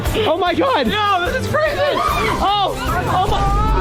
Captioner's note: yelling